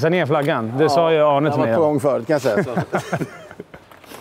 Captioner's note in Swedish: skratt